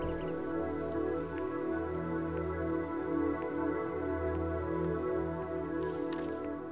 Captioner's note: Footsteps